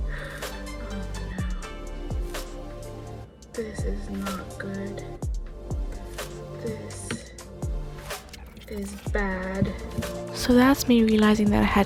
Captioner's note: gasp